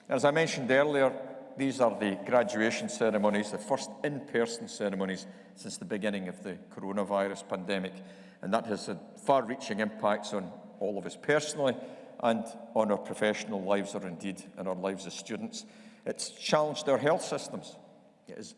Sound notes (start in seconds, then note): none